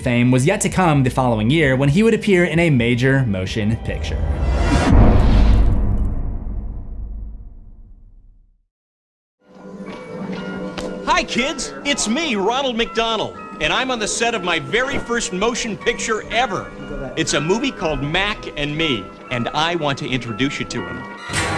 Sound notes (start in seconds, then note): 4.0 impact